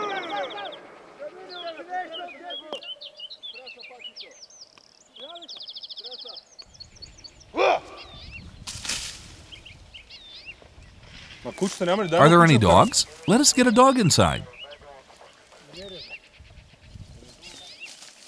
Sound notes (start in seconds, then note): 0.8 drivers yelling